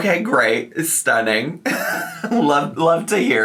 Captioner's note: laughs